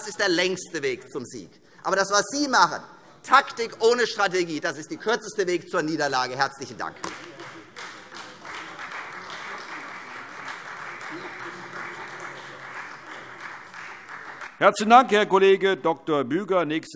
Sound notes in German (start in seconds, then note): 7.0 Beifall Freie Demokraten